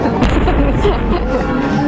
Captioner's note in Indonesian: Ketawa